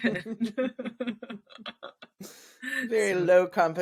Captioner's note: laughs